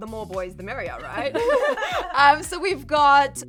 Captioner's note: all giggling